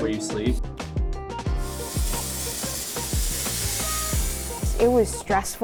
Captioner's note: machine hissing